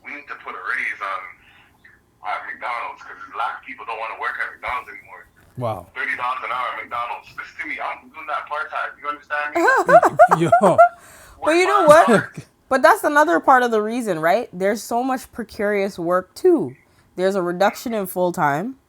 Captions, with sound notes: we need to put a raise on, at McDonald's because black people don't want to work at McDonald's anymore." Wow. $30s and hour at McDonalds. Listen to me I'm doing that part time. You understand me? [LAUGHTER] Well, you know what? But that's another part of the reason, right? There's so much precarious work too. There's a reduction in full time.